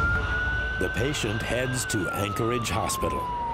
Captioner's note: siren wailing